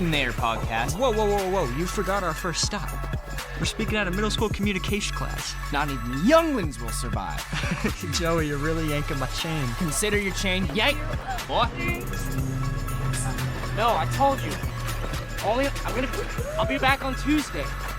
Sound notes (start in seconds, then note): 7.4 Marvin laughs